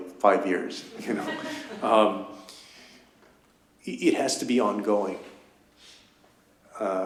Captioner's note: laughter